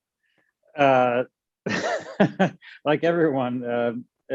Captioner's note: chuckles